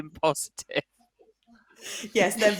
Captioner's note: laughter